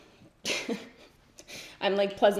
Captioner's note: giggles